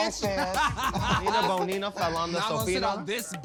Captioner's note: chuckles